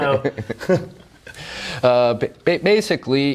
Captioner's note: both laugh wryly